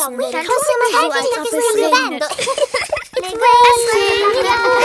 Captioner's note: laughs